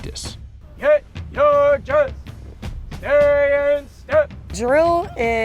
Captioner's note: MTI chanting